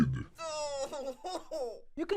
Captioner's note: cries